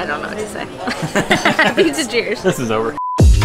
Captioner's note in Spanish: Risas